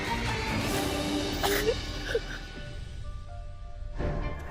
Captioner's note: sobbing